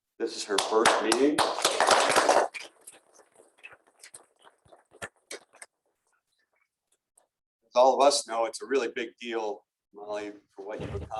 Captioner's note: applause